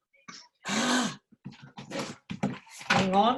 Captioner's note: gasps exasperatedly